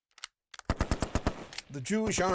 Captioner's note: firing